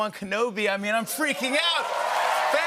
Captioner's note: cheers and applause